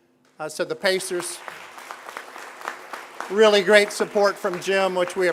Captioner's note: applause